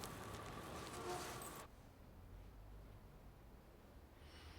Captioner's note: horn honking